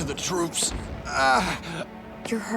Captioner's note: groaning